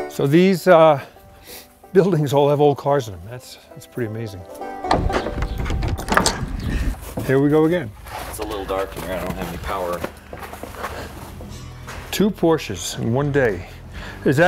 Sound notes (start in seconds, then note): 4.6 lock rattling